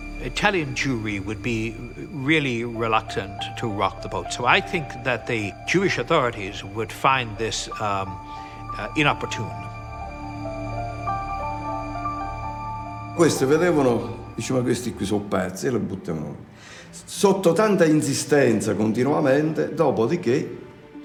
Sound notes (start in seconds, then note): 9.9 gentle music continues; 13.0 speaks in foreign language